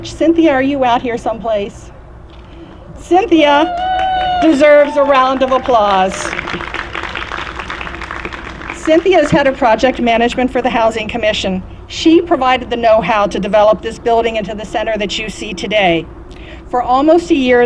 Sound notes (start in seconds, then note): 3.6 applause